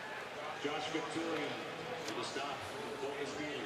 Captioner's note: pa announcement